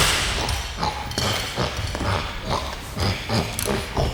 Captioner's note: grunting